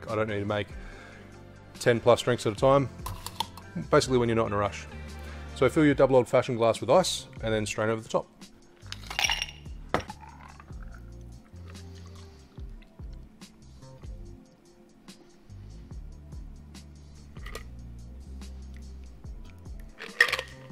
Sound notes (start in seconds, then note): 9.0 rattling; 10.0 liquid pouring